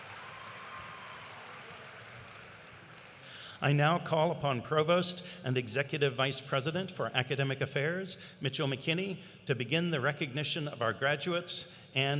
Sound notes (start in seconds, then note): 0.0 applause; 1.5 cheers